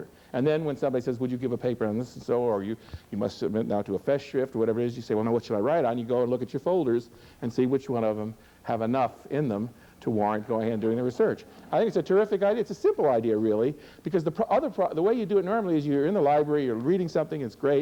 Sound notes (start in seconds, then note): none